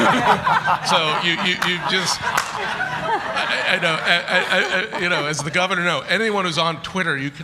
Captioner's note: laughter